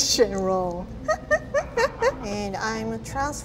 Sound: laughing

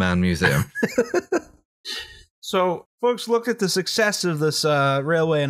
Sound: laughter

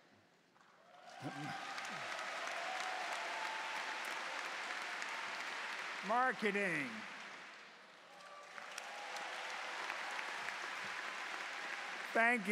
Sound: cheers and Applause

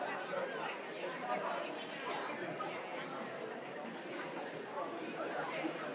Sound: people continue chattering

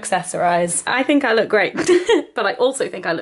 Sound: laughs

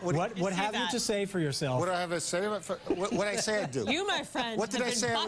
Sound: laughter

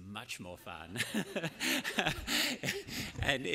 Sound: laughter

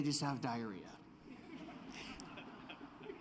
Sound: laughter

